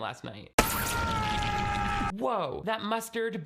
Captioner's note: man screaming